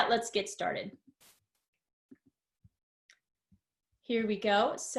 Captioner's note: silence